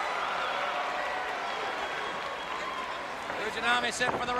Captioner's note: crowd cheering